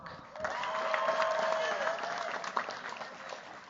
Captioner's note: cheers, applause